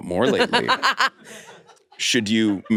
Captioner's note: laughs